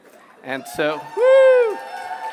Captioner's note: cheering